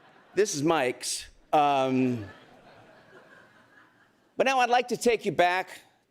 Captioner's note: laughter